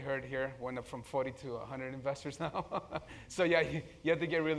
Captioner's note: laugh